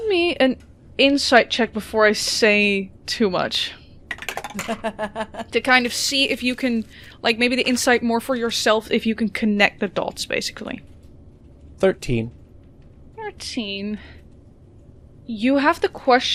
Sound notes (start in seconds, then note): 4.1 dice clacks; 4.6 laughter